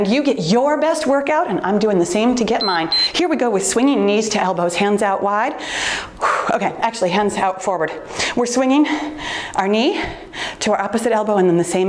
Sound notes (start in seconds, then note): 2.5 timer beeps; 5.6 exhales